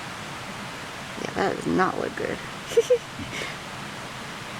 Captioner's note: chuckle